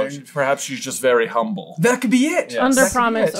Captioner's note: none